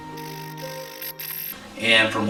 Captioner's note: static fizzing